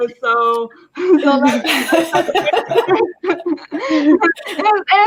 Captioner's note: everybody laughing